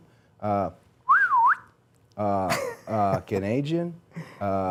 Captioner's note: person whistling